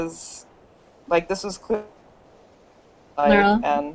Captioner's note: mic suddenly mutes